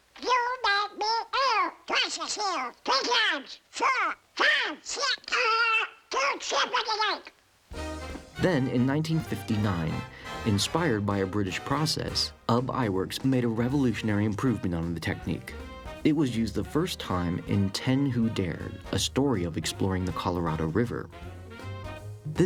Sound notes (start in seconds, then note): 5.5 exclaims